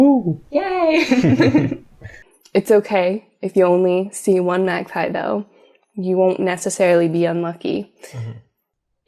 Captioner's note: laughter